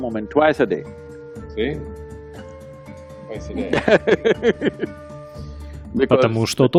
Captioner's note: Садхгуру смеется